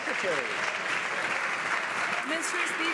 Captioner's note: some Applause